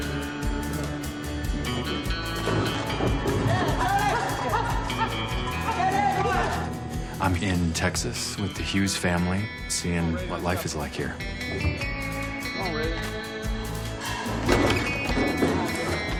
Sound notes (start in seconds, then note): 3.7 shouting